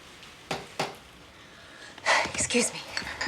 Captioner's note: knocking at door